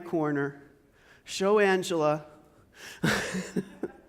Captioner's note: laughs